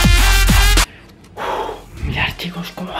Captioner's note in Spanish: suspiro